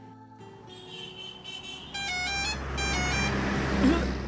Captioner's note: bus honking